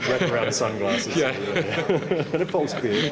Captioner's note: laughs